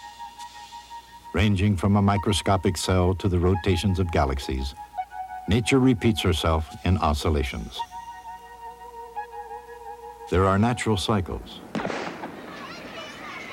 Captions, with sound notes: RANGING FROM A MICROSCOPIC CELL TO THE ROTATIONS OF GALAXIES, NATURE REPEATS HERSELF IN OSCILLATIONS. THERE ARE NATURAL CYCLES. [GUNSHOT]